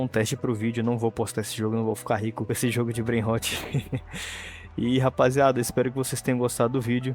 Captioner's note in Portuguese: risadas